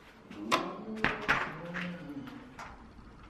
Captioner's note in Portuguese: porta fechando